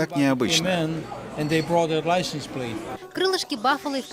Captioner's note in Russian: английская речь